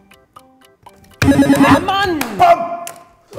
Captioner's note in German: Buzzer